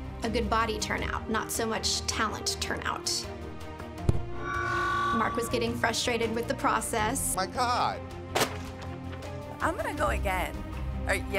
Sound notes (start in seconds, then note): 4.3 microphone thudding